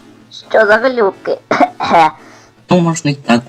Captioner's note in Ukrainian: кашляє